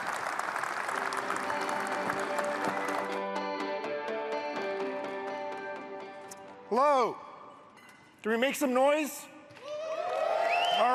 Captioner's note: applause